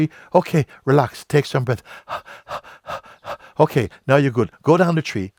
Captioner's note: panting